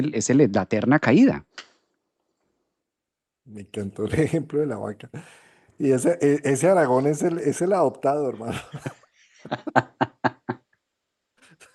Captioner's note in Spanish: risas